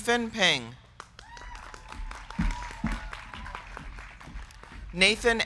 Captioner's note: crowd clapping; crowd cheering